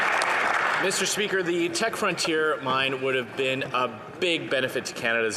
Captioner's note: some Applause